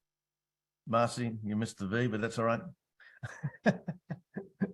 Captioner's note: laughs